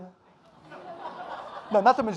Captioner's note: audience laughing